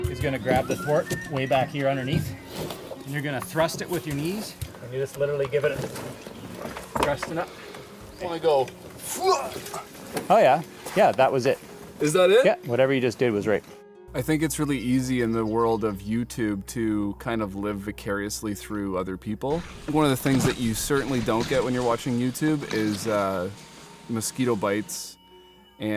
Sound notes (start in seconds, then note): 9.0 grunts